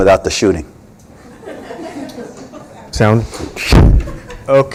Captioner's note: laughter